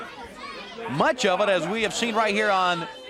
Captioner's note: crowd chatter